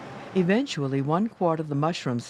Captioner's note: voiceover